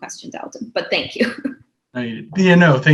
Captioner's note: laughs